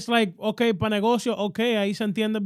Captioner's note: speaking In Spanish